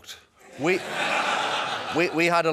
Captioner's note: laughter